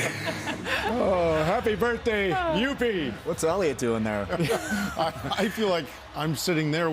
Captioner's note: laughter